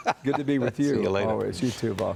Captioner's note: laughter